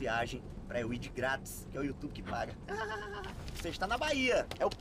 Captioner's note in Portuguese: risada